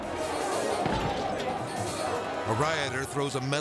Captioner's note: pot clangs